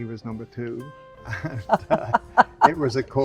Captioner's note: laughing